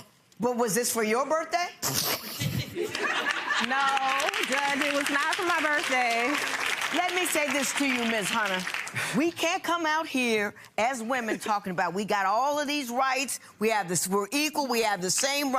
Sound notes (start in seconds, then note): 0.1 chuckles; 1.9 laughing